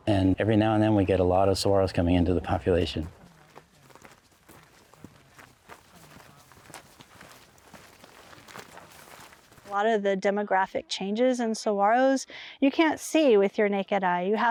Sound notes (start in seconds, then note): 5.4 feet stamping